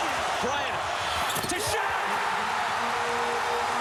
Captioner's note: applause